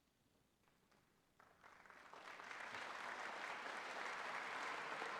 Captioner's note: applause